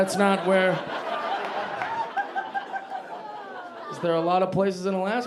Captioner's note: audience laughing